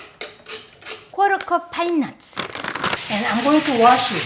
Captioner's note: spoon scraping strainer; bag crinkling